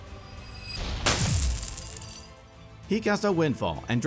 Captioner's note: coins falling